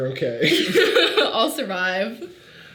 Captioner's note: Sadie laughing